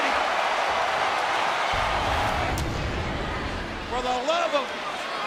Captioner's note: applause